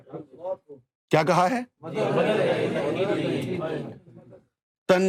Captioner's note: audience repeats